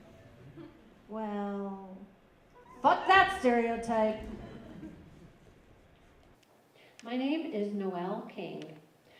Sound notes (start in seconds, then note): 4.2 laughter